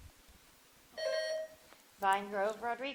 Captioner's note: buzzer dings